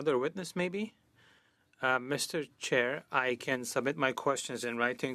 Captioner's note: speaking French